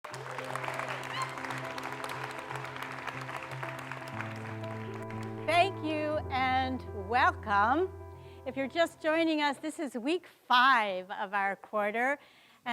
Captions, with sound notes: (light music) (audience clapping) - Thank you and welcome If you're just joining us this is week five of our quarter